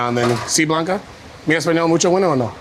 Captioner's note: speaks foreign language